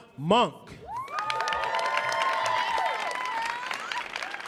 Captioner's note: audience cheering